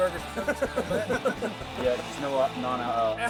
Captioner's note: laughing